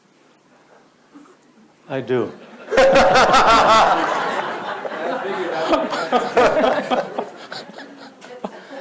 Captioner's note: audience laughs